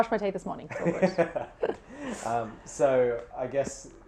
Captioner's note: laughing